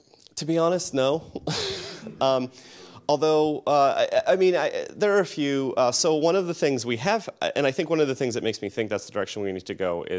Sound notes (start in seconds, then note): 1.3 laughs